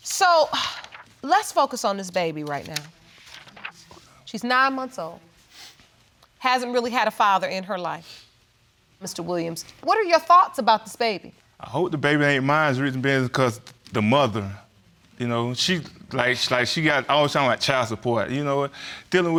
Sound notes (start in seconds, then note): none